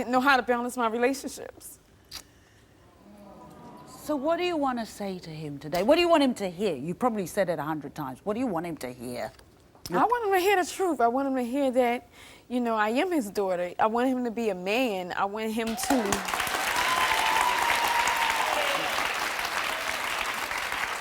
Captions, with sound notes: - I didn't know how to balance my relationships. - So what do you wanna say to him today? What do you want him to hear? You've probably said it 100 times. What do you want him to hear? - I want him to hear the truth. I want him to hear that I am his daughter. I want him to be a man, I want him to... (audience cheering)